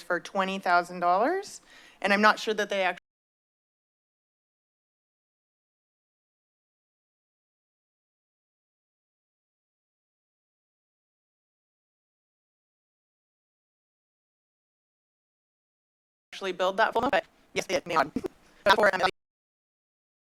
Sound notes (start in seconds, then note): 3.3 silence; 15.3 silence